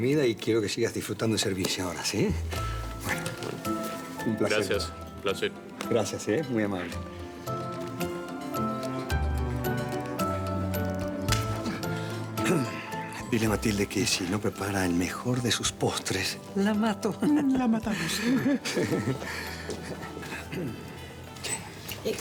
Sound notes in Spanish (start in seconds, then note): 12.3 Susurra; 20.4 Ríe